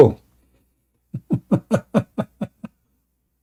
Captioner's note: Ketawa